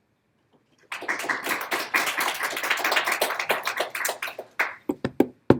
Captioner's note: audience applauding